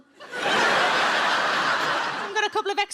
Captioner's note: audience laughs